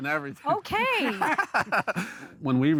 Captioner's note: everyone chuckles